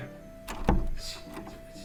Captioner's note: door opens